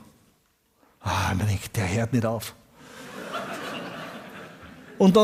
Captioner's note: audience laughs